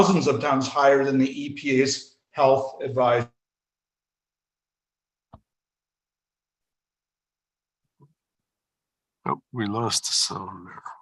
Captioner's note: audio drops